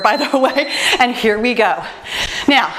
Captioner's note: timer beeps